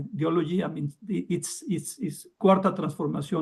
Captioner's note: speaks in Spanish